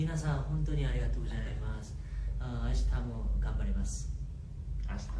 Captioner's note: speaking japanese